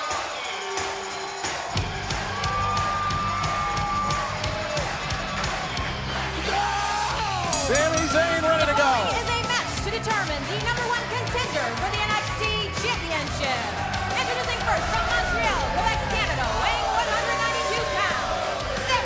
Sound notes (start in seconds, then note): 2.0 cheers & applause; 7.4 bell ringing